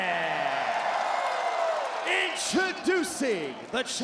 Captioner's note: crowd cheers